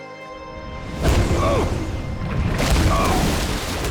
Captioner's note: grunting